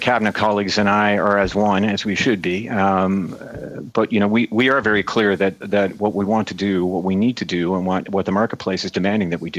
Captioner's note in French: voix de l'interprète